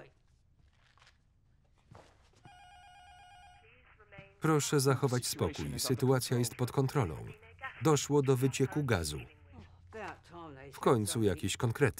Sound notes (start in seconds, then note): 2.4 intercom buzzer ringing; 3.8 intercom; 7.0 intercom voice